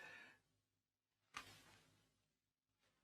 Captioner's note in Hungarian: csend